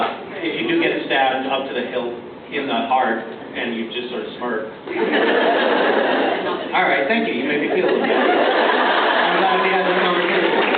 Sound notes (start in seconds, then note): 4.9 laughs